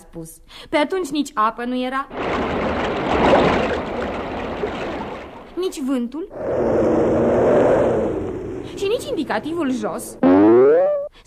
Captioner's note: the water flows; the wind blows